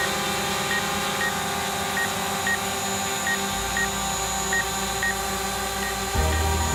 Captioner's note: buzzing sound from a drone; beeping; buzzing